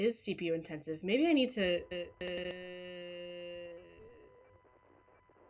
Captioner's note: glitches out